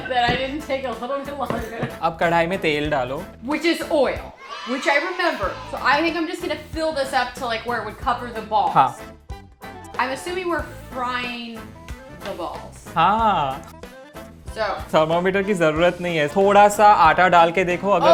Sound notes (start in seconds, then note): 2.1 speaking in Hindi; 9.1 speaking in Hindi; 12.6 speaking in Hindi